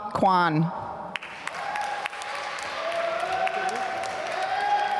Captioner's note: applause